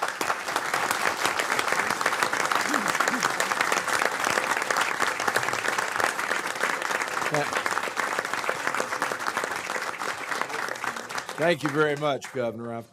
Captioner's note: applause